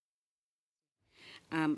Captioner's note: speaking in French